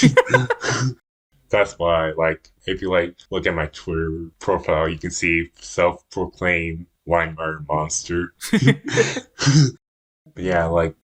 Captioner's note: both laugh; both laugh